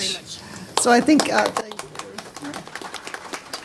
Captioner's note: speaking japanese; applause